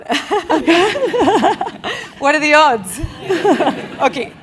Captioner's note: laugh